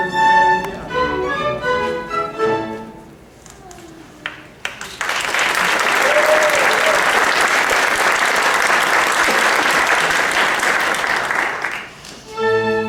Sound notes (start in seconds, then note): 0.0 music concludes; 4.5 applause